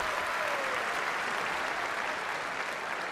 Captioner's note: applause